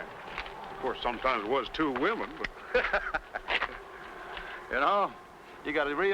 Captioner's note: laughs